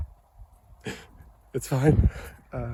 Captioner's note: sobs